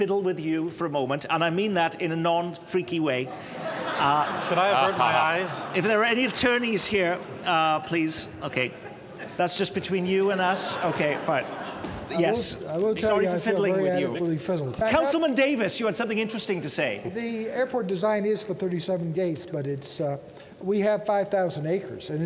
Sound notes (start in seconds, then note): 10.4 laughter